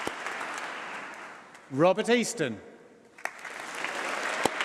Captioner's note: applause